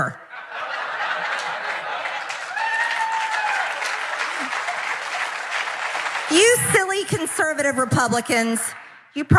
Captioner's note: applause